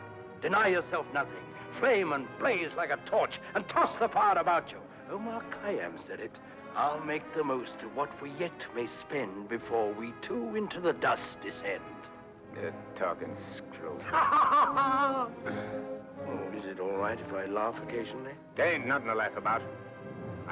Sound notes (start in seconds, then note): 14.0 laughs